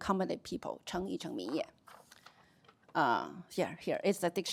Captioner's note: chinese speech